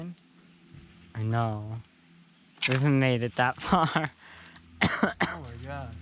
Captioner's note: laughs